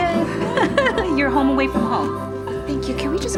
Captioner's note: laughs